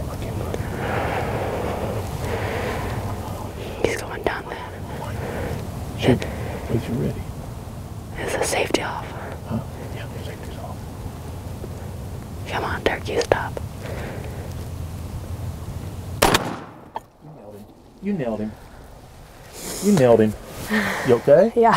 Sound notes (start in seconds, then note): 0.0 whispering